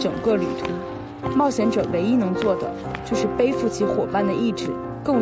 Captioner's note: sample 7: The sound of determined footsteps